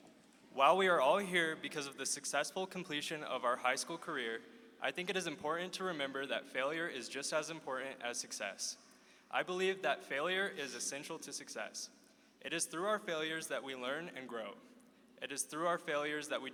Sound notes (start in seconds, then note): none